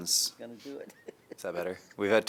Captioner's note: laughter